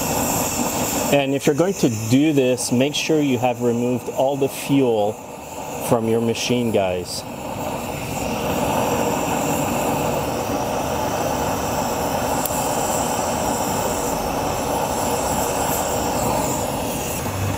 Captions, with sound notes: And if you're going to do this, make sure you have removed all the fuel from your machine, guys. (flame whooshing)